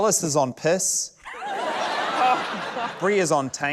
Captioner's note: laughter